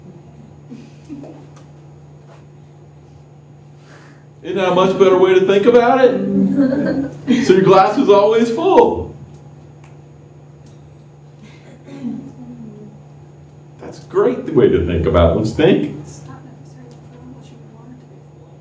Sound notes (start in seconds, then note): 6.3 laughter